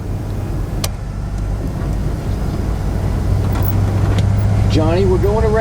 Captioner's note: knobs and switches being adjusted